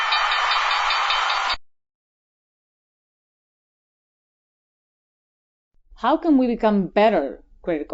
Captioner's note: pause in speaking